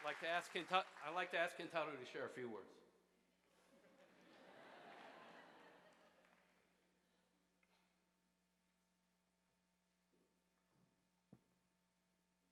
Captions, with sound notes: I'd like to ask Kentaro to share a few words. (audience laughs)